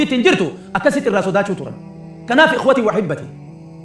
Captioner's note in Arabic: ضحك